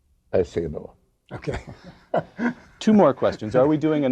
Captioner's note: laugh